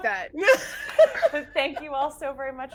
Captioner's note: laughing